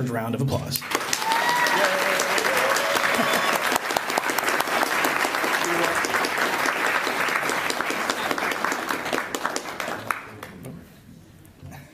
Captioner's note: applause